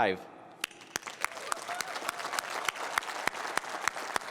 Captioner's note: applause